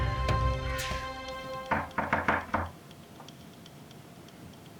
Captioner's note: door knocks